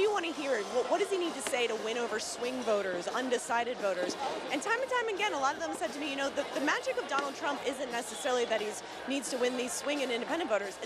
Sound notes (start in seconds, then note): none